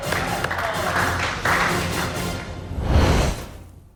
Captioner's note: applause